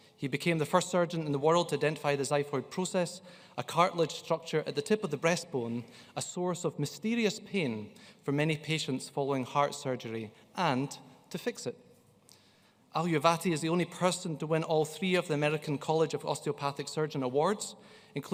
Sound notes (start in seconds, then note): none